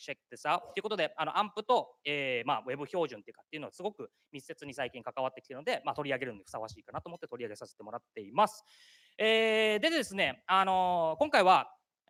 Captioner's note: speaking japanese